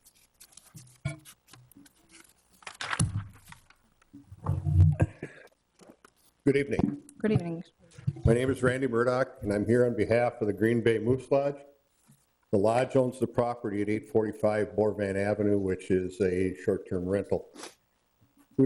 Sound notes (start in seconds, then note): 2.5 papers rustling